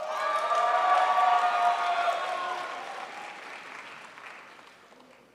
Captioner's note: crowd applauds